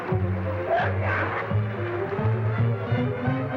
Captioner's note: growling